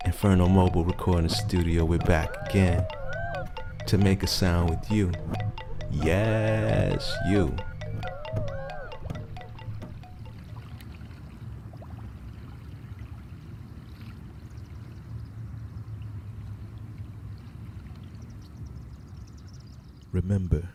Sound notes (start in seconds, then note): 10.2 waves gently splashing